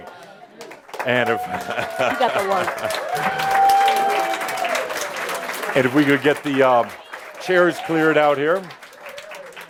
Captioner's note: audience applause